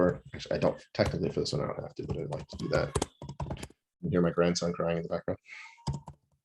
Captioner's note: then we hear my grandson crying in the background